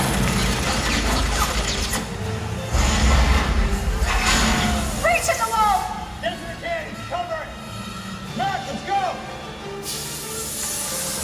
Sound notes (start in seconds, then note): 0.1 shots firing; 2.7 explosive sound; 3.2 crowd gasps; 9.5 tense music intensifies